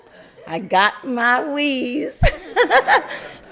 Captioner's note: laugther; crowd laugther